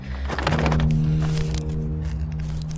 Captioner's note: branches snapping, louder